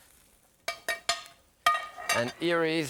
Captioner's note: utensil clinking